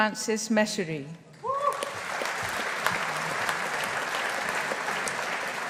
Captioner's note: audience applauding